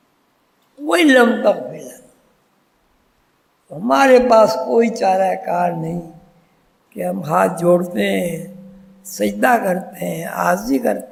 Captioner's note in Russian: в мольбе